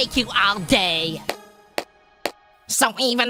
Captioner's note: sarcastic clapping